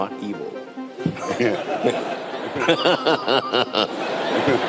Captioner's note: laughter